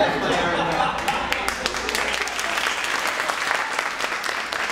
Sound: applause

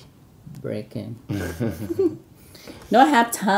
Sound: laughing

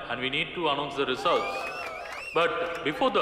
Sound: cheering

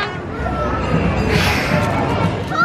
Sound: sighs

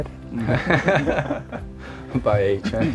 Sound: laughter

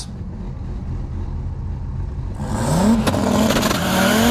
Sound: car engine revving

